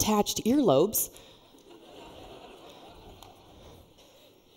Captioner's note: laughter